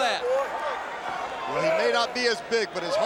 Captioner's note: crowd chatter